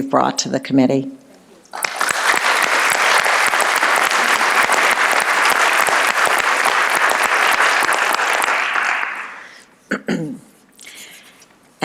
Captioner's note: applause